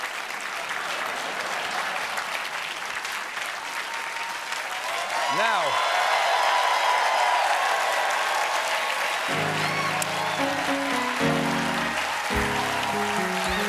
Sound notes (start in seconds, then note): 5.0 applause; 5.0 cheers and applause